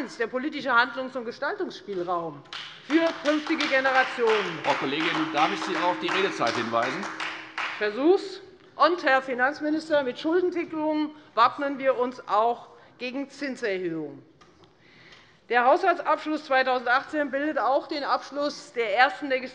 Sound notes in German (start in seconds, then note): 2.4 Beifall Freie Demokraten